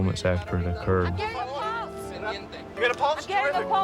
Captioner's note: speaking spanish